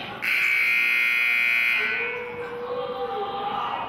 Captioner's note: buzzer honks